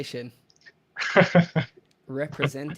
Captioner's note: laughs